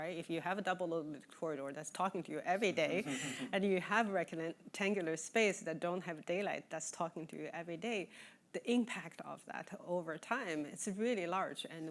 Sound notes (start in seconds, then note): 3.0 chuckling